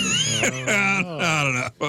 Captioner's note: laughing